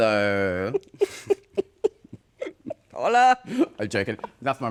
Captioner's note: laughter